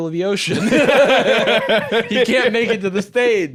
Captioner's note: both laugh